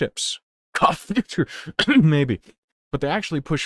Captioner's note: cough